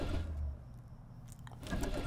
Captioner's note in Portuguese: barulho da ignição